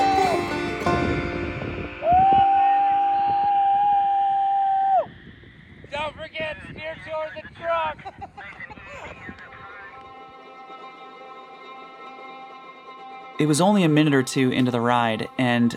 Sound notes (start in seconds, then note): 7.8 laughs